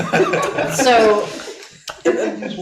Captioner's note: audience laughing